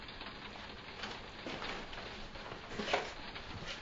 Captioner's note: raining